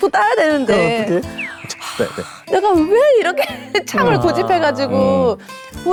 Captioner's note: deep sigh